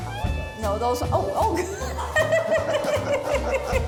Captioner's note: laughing